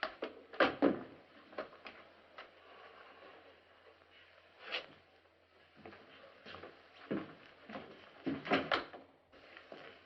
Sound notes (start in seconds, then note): 8.2 door opens